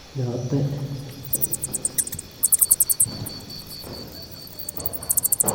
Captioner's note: bat's clicks